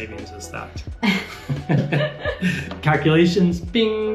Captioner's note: both laughing